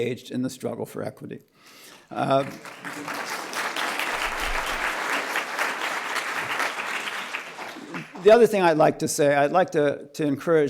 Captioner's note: applause